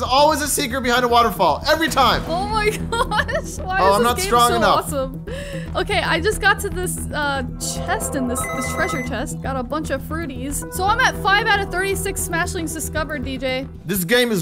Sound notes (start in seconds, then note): 2.7 laughing